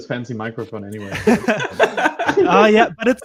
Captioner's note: both laughing